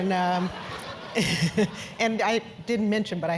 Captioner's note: laugh